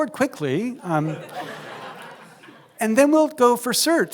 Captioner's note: laughter